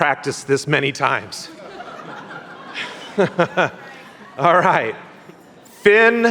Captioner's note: laughter